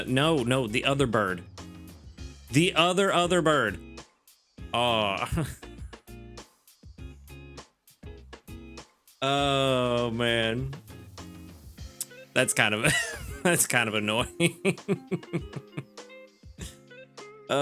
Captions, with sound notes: No, no, the other bird. The other other bird. Oh. Oh man. That's kind of annoying. (laughs)